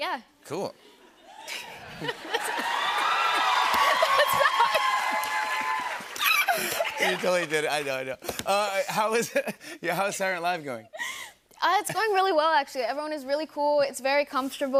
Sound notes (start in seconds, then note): 1.3 laughter, cheering, applause